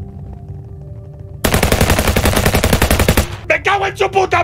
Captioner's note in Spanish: Disparos